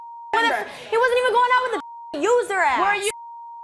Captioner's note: beep; beep